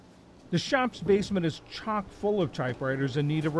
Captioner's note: voice-over